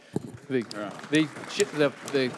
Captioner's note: applause